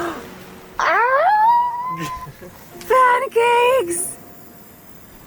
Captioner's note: screams